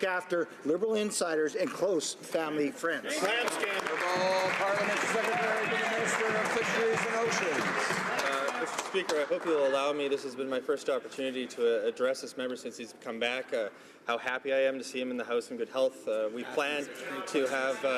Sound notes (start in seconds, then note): 6.5 some Applause